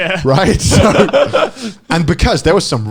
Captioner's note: all laughing